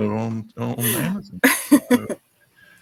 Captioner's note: laughing